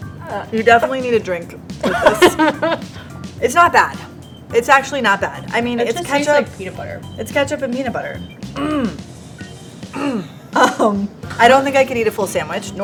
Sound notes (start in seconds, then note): 1.8 laughs; 8.4 coughs